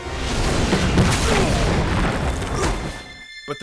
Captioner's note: grunting